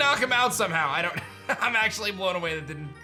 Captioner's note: chuckles